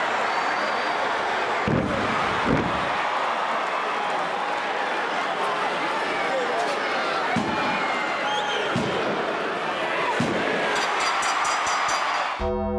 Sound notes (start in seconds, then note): 1.6 wrestler thudding; 1.7 crowd chattering; 7.4 crowd cheering; 8.7 referee thudding; 10.8 bell ringing